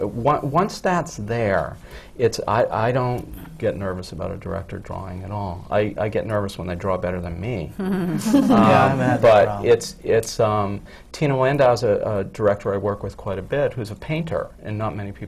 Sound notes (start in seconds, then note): 8.0 laughter from the panel